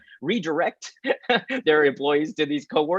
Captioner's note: chuckles